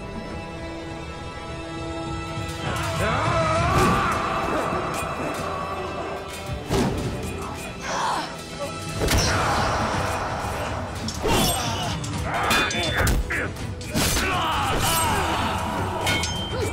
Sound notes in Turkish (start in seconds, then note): 3.6 Bağırmalar; 3.6 Kılıç Sesleri